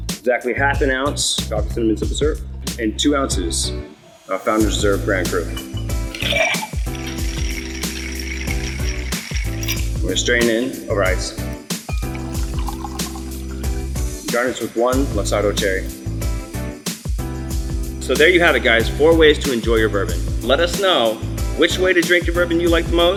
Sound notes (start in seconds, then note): 5.5 ice shuffling in glass; 11.6 soothing music; 13.2 water pouring; 16.7 soothing music